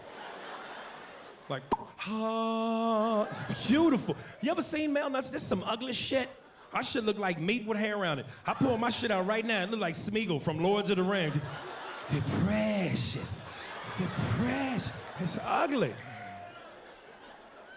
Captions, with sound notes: LIKE, (smacks lips) HA-AH. IT'S BEAUTIFUL. YOU EVER SEEN MALE NUTS? THAT'S SOME UGLY SHIT. OUR SHIT LOOK LIKE MEAT WITH HAIR ON IT. I PULL MY SHIT OUR RIGHT NOW, IT LOOKS LIKE SMEAGOL FROM "LORD OF THE RINGS." (imitates Smeagol) THE PRECIOUS, THE PRECIOUS. IT'S UGLY.